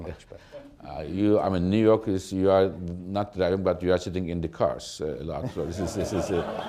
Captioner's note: laughter